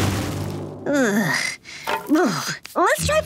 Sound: groaning

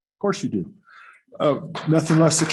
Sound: applause

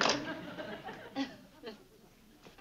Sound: laughs

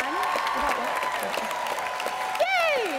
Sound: cheering and applause

